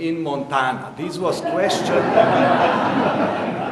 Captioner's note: audience laughing